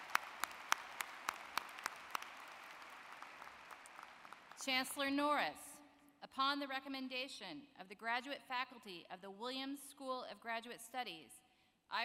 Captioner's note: applause